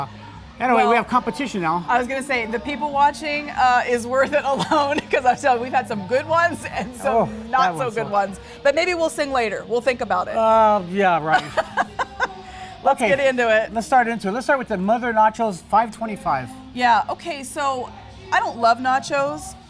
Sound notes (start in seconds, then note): 11.3 laughing